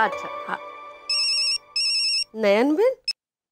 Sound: phone ringing

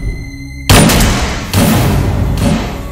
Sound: gunshot

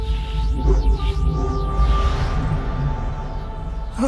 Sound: whooshing

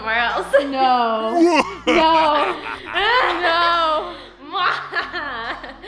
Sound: laughs evilly

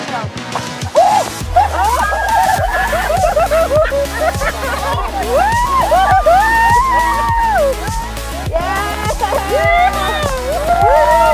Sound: screaming & Laughing

